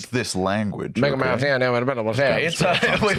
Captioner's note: mumbles whitely